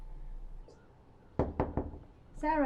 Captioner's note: knock on door